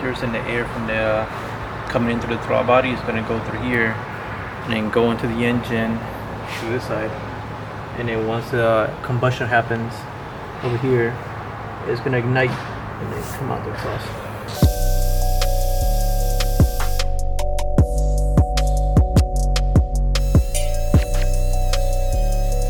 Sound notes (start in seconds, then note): 14.4 tool hums; 17.5 gentle upbeat music; 20.2 tool hums